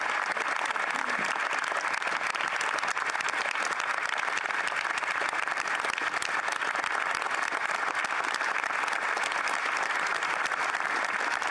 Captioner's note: applause